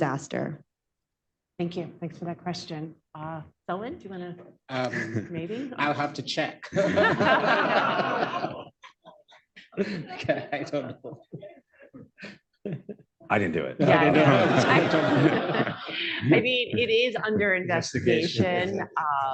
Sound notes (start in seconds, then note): 6.6 laughter; 9.6 laughs; 13.8 laughter